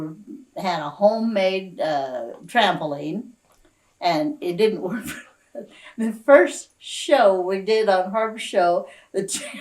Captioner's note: laughs